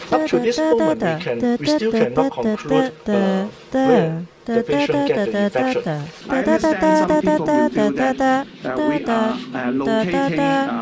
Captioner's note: humming imitation